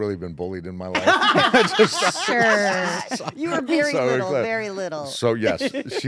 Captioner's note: laugh